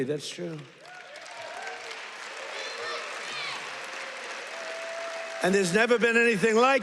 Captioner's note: audience chants "USA"